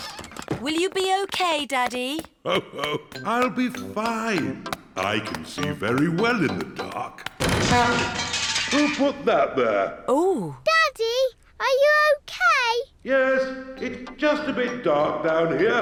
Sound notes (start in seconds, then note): 2.4 laughs; 6.6 crashing